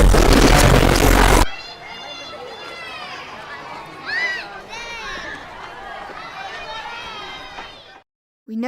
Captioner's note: suddenly, the sound of children playing happily